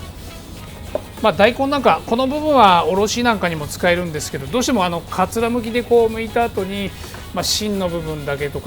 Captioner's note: grating